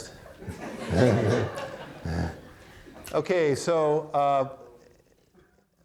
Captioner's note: audience laughing; chuckles